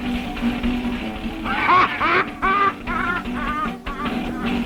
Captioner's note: Mose laughing